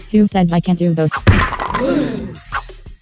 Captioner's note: all except Pillow gasp